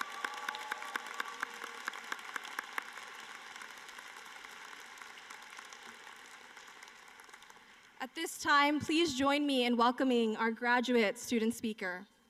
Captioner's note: applause